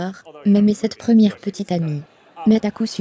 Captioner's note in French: L'audience rit